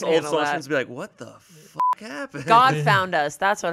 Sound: beep

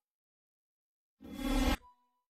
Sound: whooshing

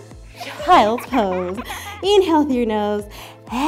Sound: child giggling

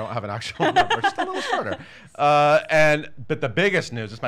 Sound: laughs

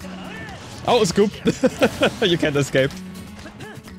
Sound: laughs

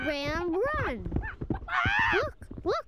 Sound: squawking

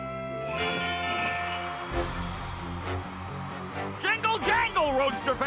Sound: crowd cheering

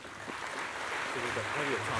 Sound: applause

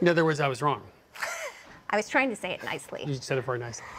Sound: laughs

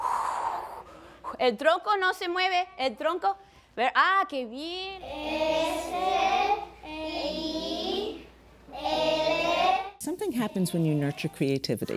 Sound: speaking spanish

